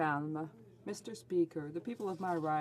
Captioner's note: speaking French